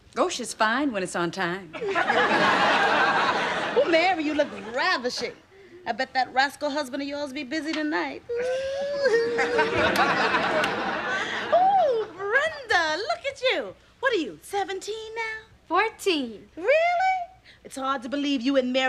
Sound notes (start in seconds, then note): 8.3 snickering